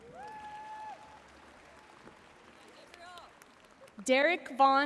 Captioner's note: audience cheering and applauding